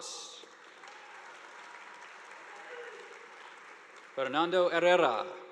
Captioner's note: audience applauding